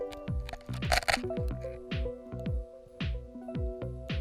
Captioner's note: rock scraping camera